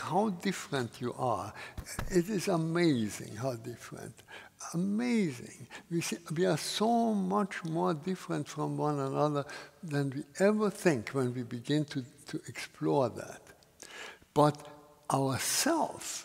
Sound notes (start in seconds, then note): none